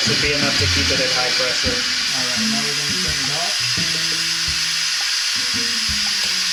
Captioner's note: hissing